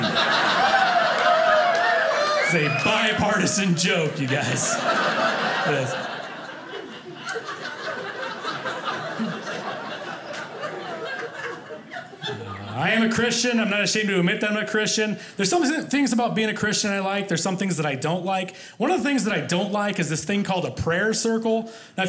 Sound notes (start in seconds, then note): 0.1 audience laughing; 4.7 audience laughing